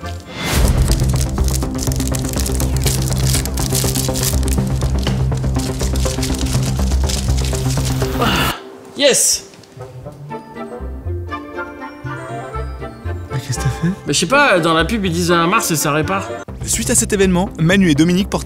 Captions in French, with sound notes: [Bruit de froissement de papier] Ah , Yes ! Mais qu'est ce que tu as fais ? Bah je sais pas , dans la pub ils disent un mars et sa répare